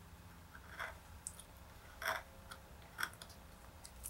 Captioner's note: tools scrapes